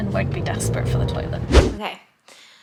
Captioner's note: whooshing sound